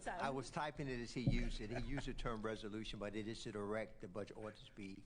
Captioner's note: laughter